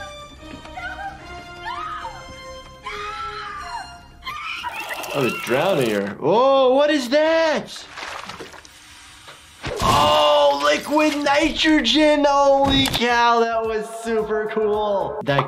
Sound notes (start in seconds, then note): 4.2 screaming